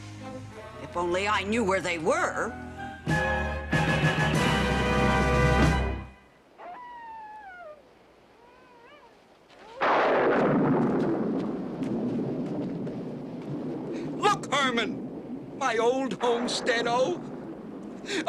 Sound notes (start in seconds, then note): 6.6 wolf howling; 9.8 thunder